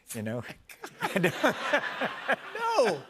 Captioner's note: laughter